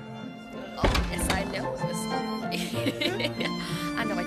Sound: lively Chatter

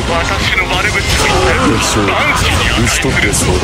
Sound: fatal scream

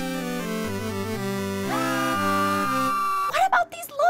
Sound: low fidelity yelling

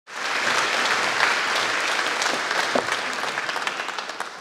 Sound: audience applauding

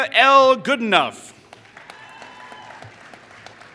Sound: applause

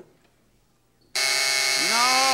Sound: buzzing

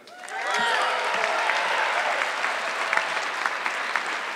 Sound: audience clapping

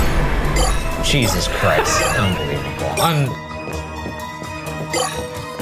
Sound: laughing

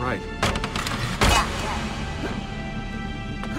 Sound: Lucy through radio

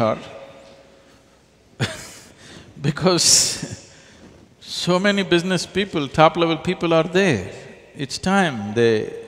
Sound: laughs

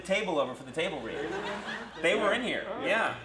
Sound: audience laughs

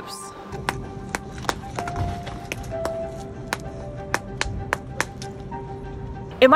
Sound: background music; otter banging ice on ground

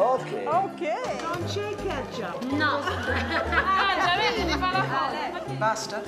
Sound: speaking Italian

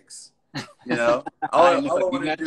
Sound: laughs

